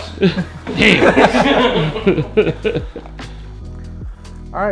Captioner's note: laughter